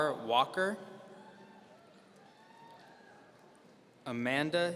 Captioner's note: audience cheering